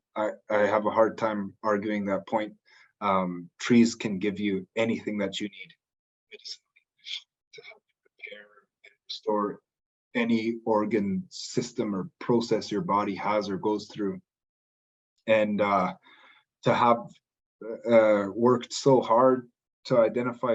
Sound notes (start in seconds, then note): none